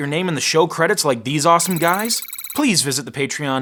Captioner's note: sci-fi typing